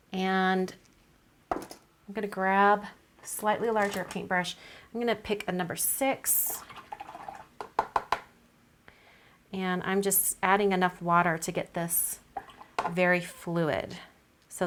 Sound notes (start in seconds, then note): 6.4 water swirls; 6.8 brush taps